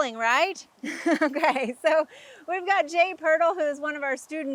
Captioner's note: chuckles